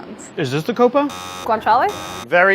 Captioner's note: buzzing